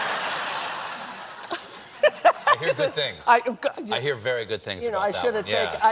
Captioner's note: laughter